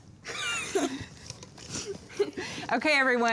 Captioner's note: laughs